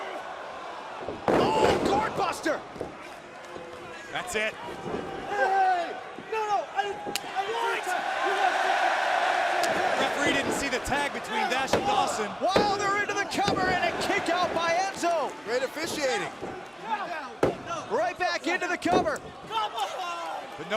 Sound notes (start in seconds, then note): 1.0 crowd chatter; 8.0 crowd chatter; 10.8 crowd cheering